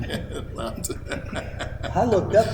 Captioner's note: laughter